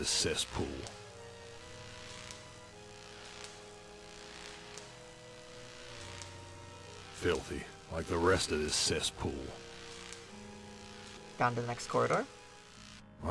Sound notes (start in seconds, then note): none